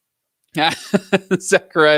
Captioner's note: laughs